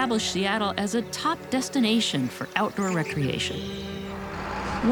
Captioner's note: birds chirping